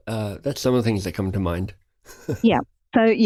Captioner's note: chuckling